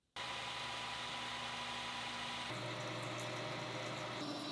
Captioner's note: machinery whirring